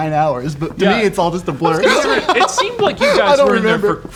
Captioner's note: laughs